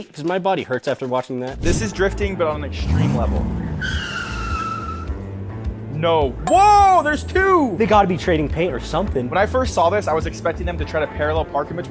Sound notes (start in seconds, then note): 3.9 tire screeching